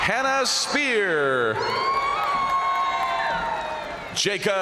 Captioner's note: crowd cheering; crowd applauding